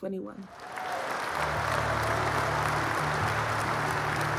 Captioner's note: cheers, applause